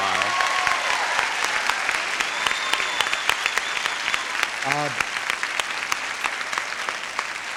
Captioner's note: audience applauding